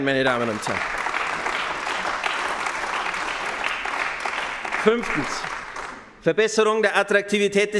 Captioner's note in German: Beifall bei den GRÜNEN